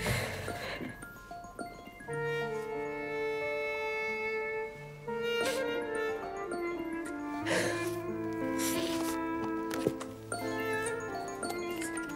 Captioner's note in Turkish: Telefon Çalıyor